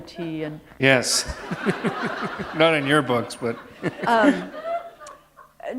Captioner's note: laughter